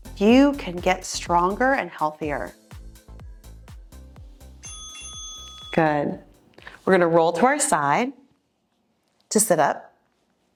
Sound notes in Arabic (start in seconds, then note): 4.6 يرن الجرس